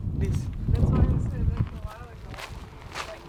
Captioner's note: wind whooshing; murmurs; feet tapping